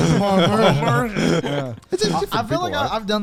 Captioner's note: everyone laughs